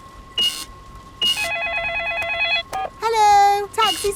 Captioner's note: beeps; cash register beeping; cellphone ringing